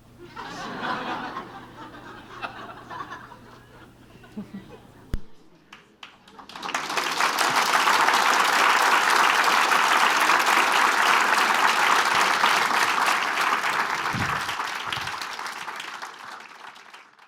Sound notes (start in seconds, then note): 5.9 applause